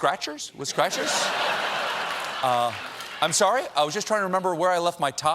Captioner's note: laughter